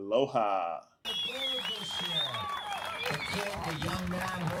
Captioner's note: cheering